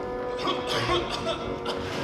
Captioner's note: coughing